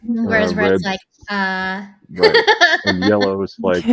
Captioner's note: laughs